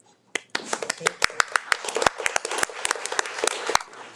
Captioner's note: people applauding